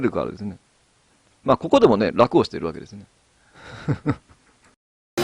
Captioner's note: laughs